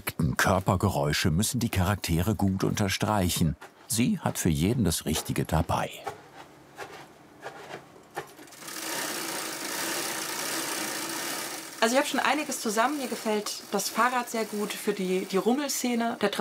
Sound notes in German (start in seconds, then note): 6.7 Rascheln